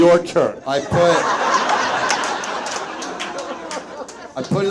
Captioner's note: audience laughs